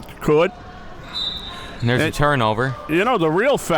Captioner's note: whistle being blown